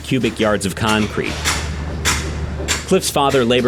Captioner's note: clanging